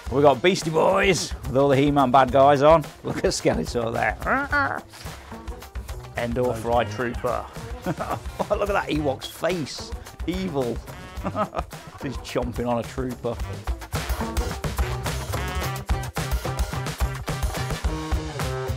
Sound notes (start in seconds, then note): 5.7 grunts; 7.2 chuckles; 11.0 chuckles; 14.2 upbeat music